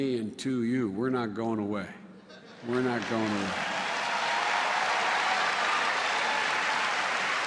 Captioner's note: applause